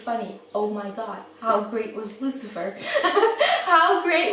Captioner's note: laughs